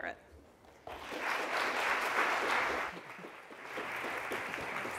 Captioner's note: applause